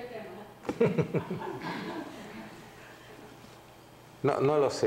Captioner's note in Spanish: risas